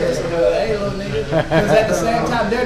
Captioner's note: man laughs